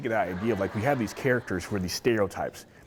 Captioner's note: audience laughing